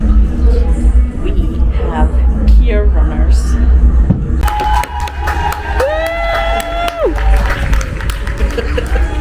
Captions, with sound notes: We have pier runners! (Applause from around the ship)